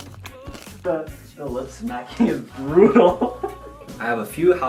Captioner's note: laughs